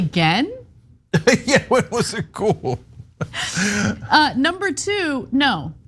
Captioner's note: laugh